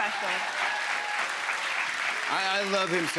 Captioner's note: applause